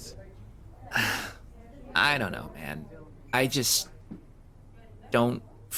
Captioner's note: sigh